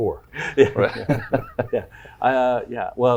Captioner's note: chuckling